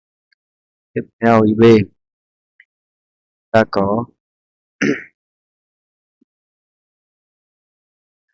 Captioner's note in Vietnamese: hắng giọng